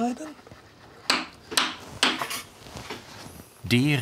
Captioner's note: hammering